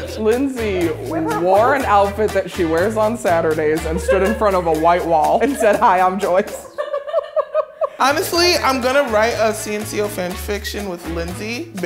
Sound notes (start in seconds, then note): 6.4 laughter